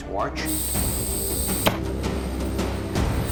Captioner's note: air hissing